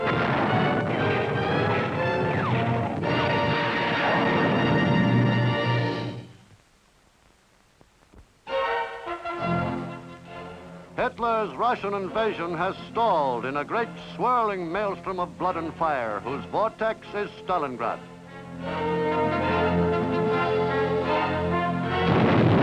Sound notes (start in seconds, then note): 0.0 explosions boom; 3.5 rocket whooshes; 8.6 dramatic music; 18.3 dramatic music continues